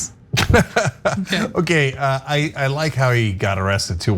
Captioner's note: laugh